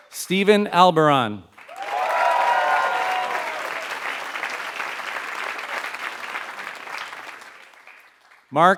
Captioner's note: applause